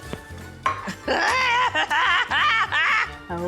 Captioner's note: screams, cackles